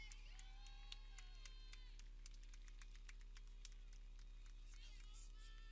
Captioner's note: people cheering